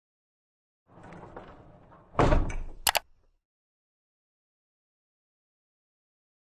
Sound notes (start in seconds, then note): 2.8 logo clicks